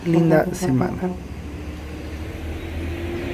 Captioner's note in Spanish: bocina del bus y saludos